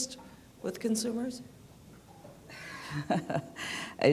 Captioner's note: laughter